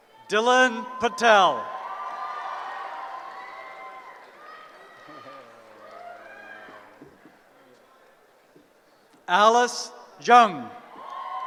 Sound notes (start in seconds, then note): 0.6 cheering